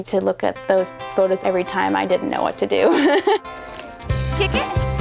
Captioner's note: laughing